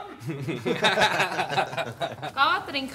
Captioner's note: laughs